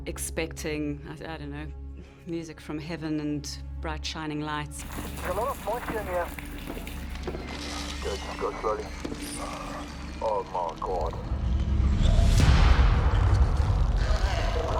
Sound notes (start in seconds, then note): 7.4 radio chattering; 12.2 tense music